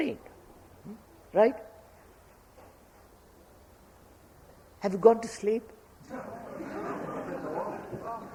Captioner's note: laughter